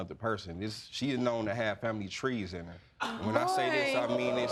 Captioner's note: audience exclaiming